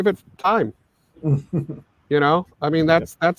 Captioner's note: chuckles